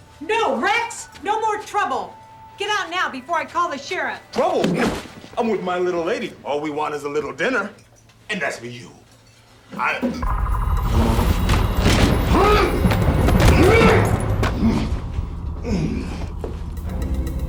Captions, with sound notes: No Rex, no more trouble. Get out now before I call the sheriff Trouble? I'm with my little lady. All we want is a little dinner -- and as for you (Magical sounds) (Yells, grunts)